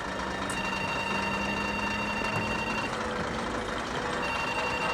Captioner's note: phone ringing